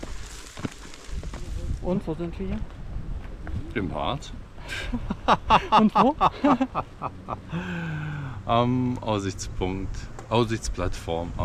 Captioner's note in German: lachen